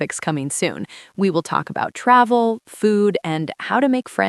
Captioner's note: none